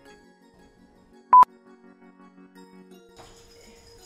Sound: beeps

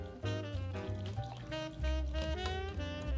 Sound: whisking

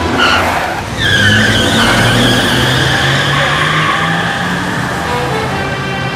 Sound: tyre screeching

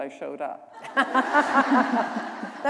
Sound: laughter

